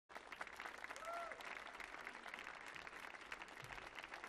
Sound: audience applauding

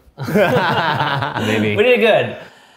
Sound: laughing

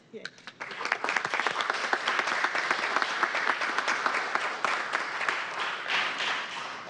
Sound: applause

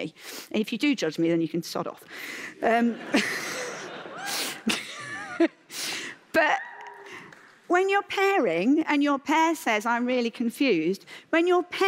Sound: laughter; single cheer

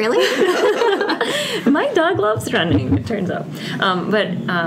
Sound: laughs

